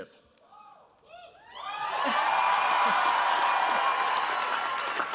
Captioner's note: cheers, applause